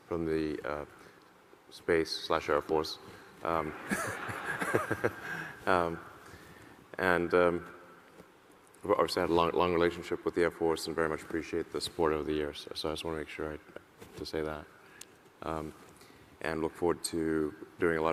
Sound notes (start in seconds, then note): 3.6 audience laughing; 3.8 laughs